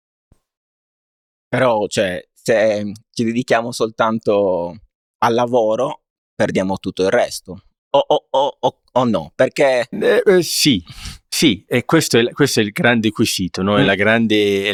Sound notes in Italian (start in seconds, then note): 10.9 sbuffare